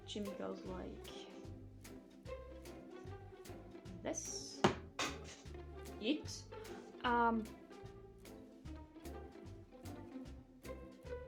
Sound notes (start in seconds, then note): 4.2 distant clack* from Fycora's hat